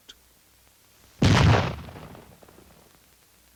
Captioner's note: explosion